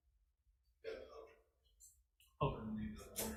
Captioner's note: faintly speaking